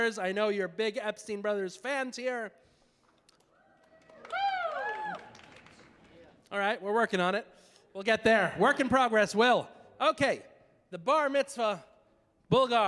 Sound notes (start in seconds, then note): 3.3 scattered applause; 3.5 scattered audience cheering